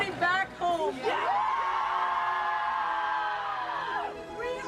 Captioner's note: cheering